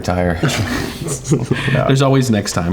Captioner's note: group laughing